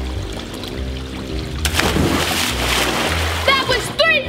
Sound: splash

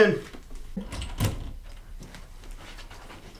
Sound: door opens

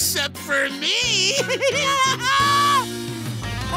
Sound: evil laugh

